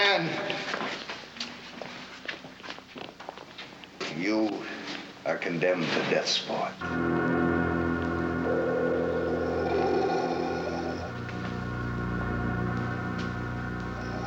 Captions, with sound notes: You are condemned to Death Sport. (tense electronic music) (heavy breathing)